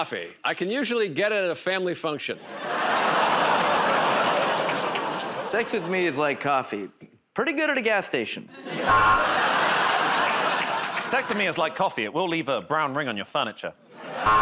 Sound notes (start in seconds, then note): 2.8 audience "Oh"s; 8.8 buzzer; 14.2 buzzer